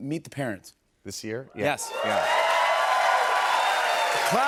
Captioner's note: cheers and applause